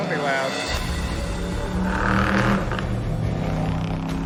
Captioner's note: engine rumbling